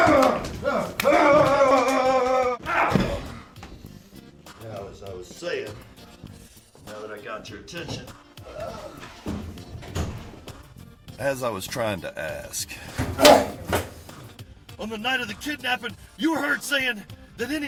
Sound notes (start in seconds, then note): 0.0 yells and screams; 3.0 moans; 13.1 thud; 13.2 groan